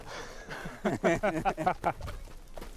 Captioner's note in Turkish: Gülme sesleri